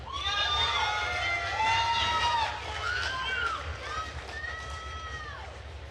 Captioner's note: attendees cheering and applauding